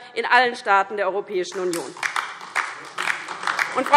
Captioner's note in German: Beifall DIE LINKE und vereinzelt SPD